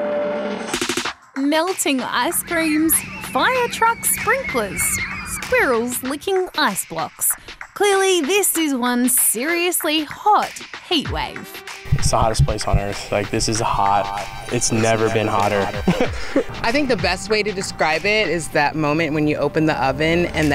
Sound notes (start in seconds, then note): 14.7 chuckles